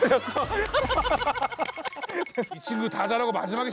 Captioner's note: shivering